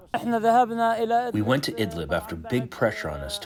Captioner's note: through translator